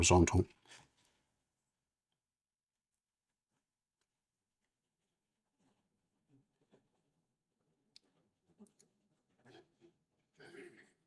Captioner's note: silence